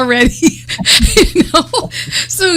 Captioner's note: laughter